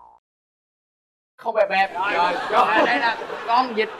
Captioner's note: laughing